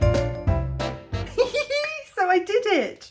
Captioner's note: giggling